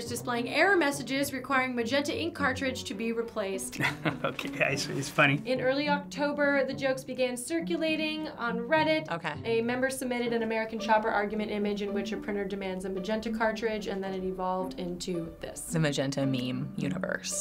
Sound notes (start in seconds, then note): 3.7 laughing